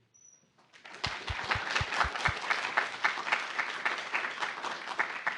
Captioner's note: applause